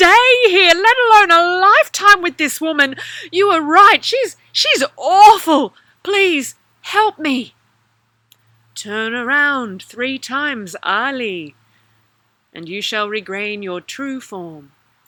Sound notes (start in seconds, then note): 8.5 Bride of the Sea voice